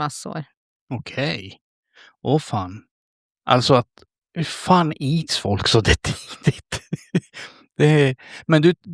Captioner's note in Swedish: skratt